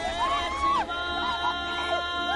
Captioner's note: screaming; cries for help continue